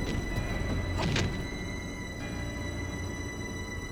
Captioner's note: gunshot blasts; Charles thuds; tense music